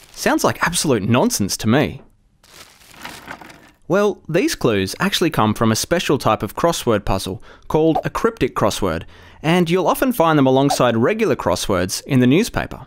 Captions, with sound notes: Sounds like absolute nonsense to me! [newspaper rustling] Well, these clues actually come from a special type of crossword puzzle called a cryptic crossword and you’ll often find them alongside regular crosswords in the newspaper.